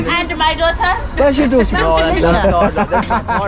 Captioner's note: laughing